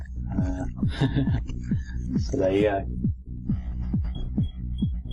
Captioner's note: laugh